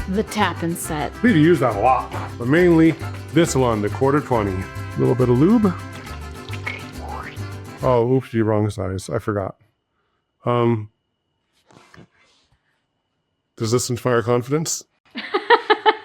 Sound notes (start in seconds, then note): 5.9 lube squelches; 15.1 laughs